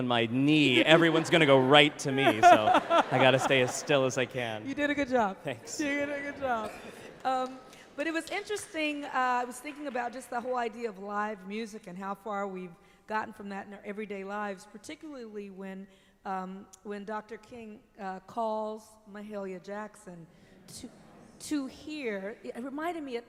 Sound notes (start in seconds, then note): 2.0 laughter; 4.6 Ava DuVernay, laughing lightly